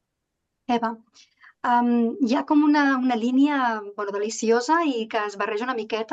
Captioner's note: speaking in Catalan